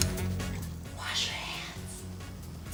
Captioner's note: whispers